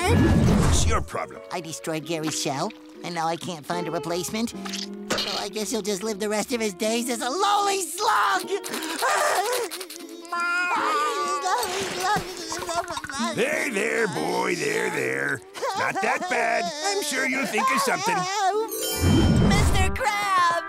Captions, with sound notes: What's your problem? I destroyed Gary's shell and now I can't find a replacement. Well, I guess he'll just live the rest of his days as a lowly slug. [crying] There, there, boy, there, there. Not that bad. I'm sure you'll think of something. Mr. Krabs.